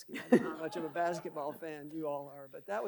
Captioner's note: audience laughing